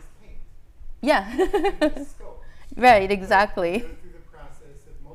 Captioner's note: laughing